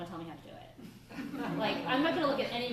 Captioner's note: laughter